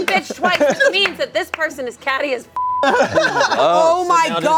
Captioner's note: beep